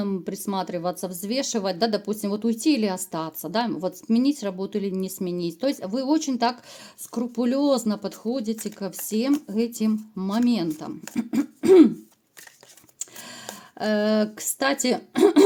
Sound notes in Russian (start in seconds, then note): 11.1 откашливается